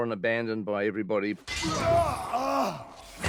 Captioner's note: grunting